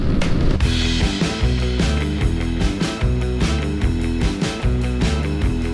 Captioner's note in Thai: ปรบมือ